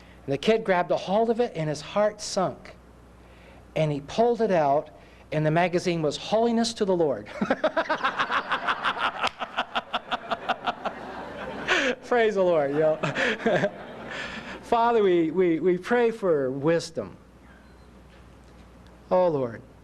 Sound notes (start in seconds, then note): 7.3 laughter